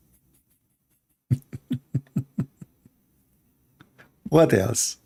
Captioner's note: Ketawa